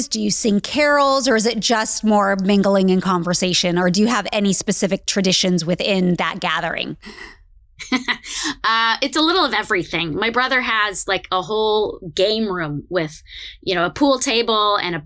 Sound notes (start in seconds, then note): 7.8 laughs